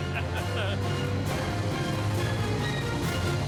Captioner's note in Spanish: risas